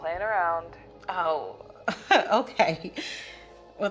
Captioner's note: laughing